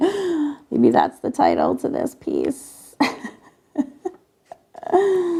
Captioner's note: laughs